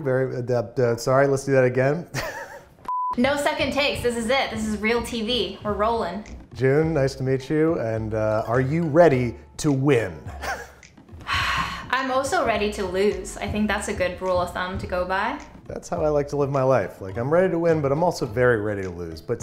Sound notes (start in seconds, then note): 2.8 beep; 10.2 he laughs; 11.2 she sighs